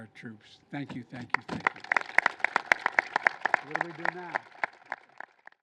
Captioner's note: applause